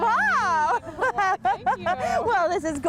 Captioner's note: laughter